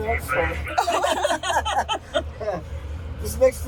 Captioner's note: laughter